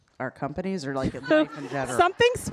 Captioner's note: audience laughing